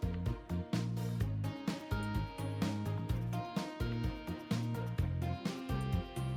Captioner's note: bzz